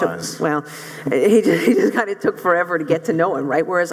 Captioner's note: laughs